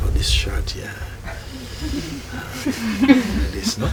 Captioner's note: soft laughter